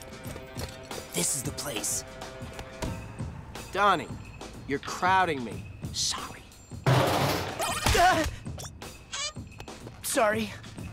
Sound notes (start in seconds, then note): 6.8 trash can rattles